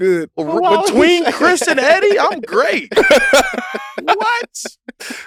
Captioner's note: group laughs